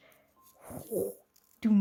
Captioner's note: whew